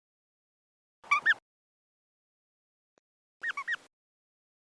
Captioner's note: birds tweeting